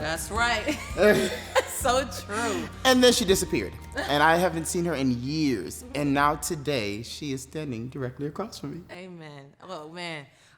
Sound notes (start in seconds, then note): 0.6 laugh